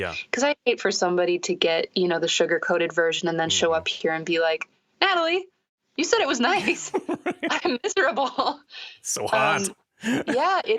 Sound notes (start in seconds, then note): 6.5 laughter